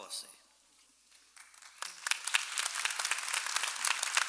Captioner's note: clapping